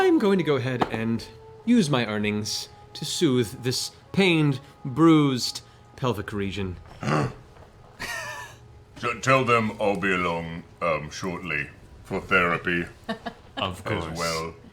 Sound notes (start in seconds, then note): 6.9 gasps